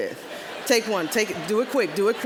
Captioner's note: audience laughing